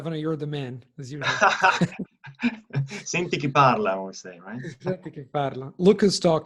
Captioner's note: in Italian